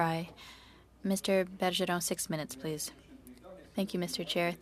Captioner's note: speaking French